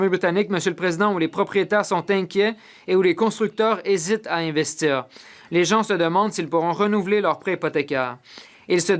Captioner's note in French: voix de l'interprète